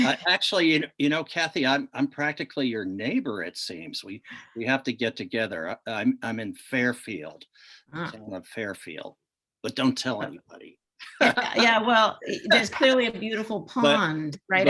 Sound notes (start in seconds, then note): 11.0 laughs